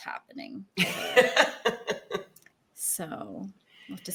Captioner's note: woman laughs